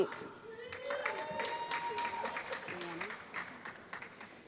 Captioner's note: applause